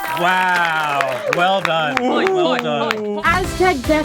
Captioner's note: mumble wailing in defeat